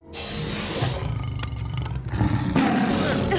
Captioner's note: growling